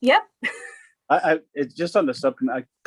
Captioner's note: laughing